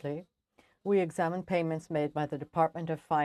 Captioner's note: speaking French